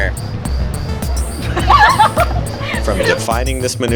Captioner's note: laugh